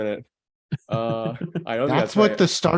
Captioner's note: laughing